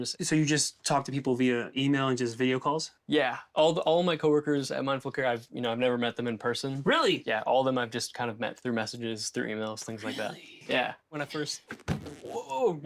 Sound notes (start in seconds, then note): none